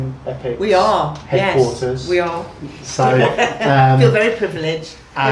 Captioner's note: laughs